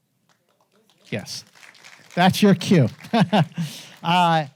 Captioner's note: laughs; audience applauding